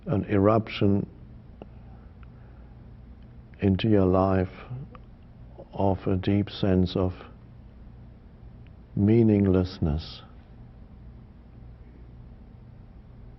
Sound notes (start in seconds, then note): none